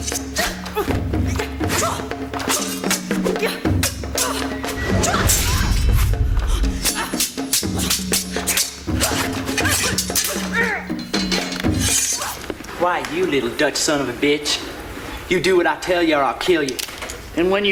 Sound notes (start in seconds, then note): 0.1 drums beating; 5.2 metals clinking